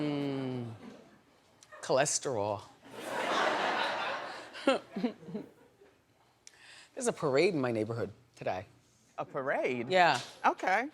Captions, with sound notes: Cholesterol. (audience laughs) There's a parade in my neighborhood today. A parade? Yeah.